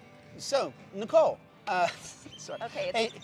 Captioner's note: chuckles